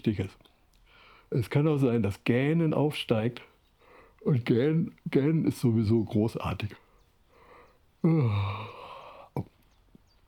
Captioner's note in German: Gähnt